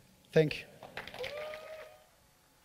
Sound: applause

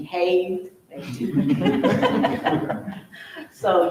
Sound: all laughing loudly

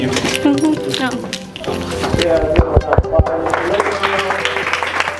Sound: back patting; students clap

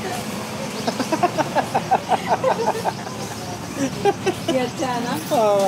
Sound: laughing

